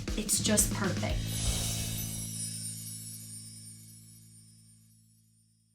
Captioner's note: twinkle sounding